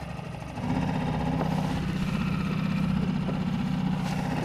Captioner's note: boat whirring